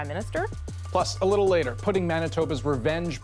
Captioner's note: none